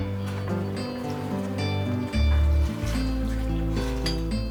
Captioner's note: woman speaking Greek